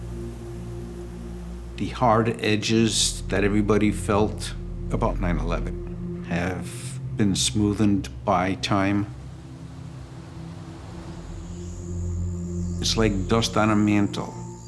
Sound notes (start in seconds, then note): 0.0 waves flowing; 9.8 breeze blowing; 12.2 birds singing; 12.2 crickets chirping